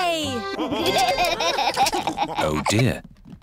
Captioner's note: laughter